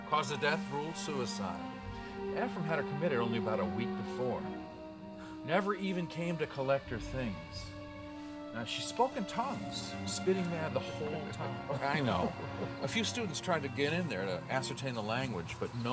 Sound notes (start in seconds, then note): 12.0 Dan laughing